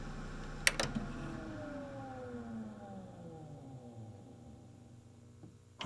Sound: disc rapidly comes to a stop; similar mechanical noises as when loading

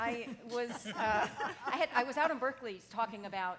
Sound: laughing

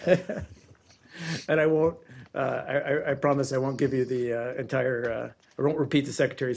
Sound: laughter

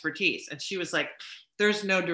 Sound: scoffs

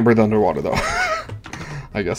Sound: nervous laughter

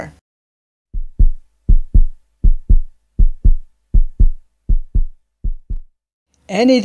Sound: heart thumping sound effect

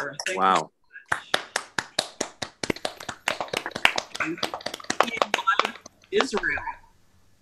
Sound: applause

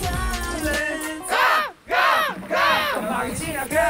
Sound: crow's cry

